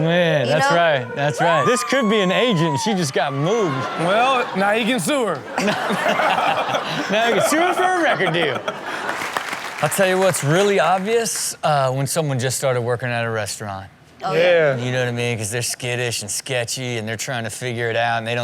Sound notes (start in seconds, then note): 5.6 Rob laughing